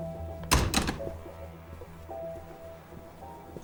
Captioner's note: door clicks